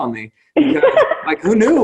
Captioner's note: laughs